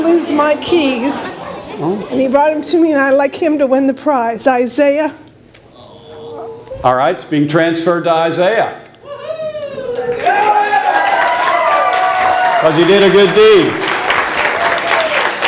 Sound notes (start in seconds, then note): 9.8 audience applause